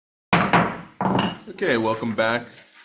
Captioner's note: gavel bangs